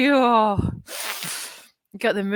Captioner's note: sharply inhales